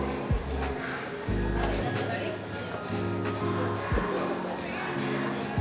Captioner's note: children chattering